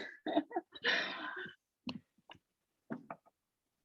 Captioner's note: laughing